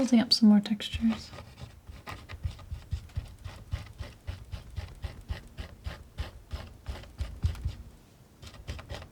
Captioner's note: scratching